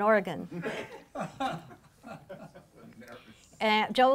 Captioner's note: laughing